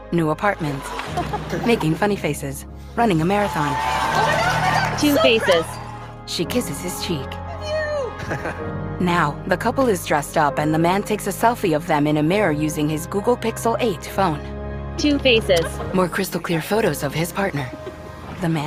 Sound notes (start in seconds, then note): 0.7 laughs; 3.2 cheers; 8.0 laughs